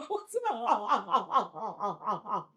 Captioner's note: crying